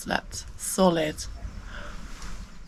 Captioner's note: cuckoo